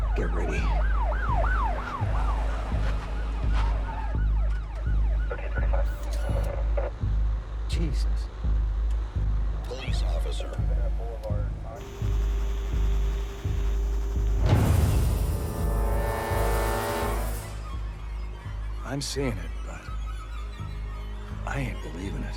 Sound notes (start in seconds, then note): 0.0 siren wailing; 11.8 interface whirring; 14.8 dramatic music